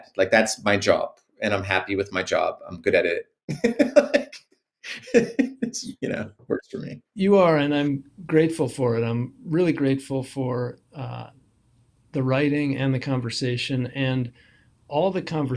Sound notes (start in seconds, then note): 6.1 laughing